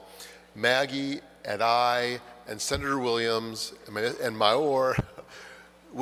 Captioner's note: chuckles